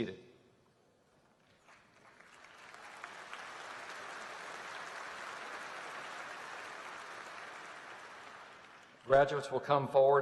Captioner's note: applause